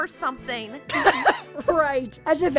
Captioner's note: Kirito burst out laughing